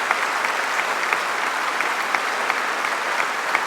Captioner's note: applause